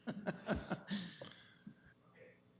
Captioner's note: laughs